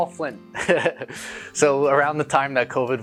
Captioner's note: chuckles